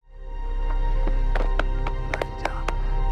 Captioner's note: uplifting instrumental music; hands thudding